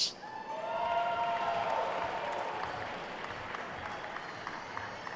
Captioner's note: attendees cheering and applauding